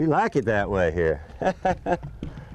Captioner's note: laughter